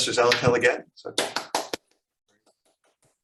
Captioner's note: applause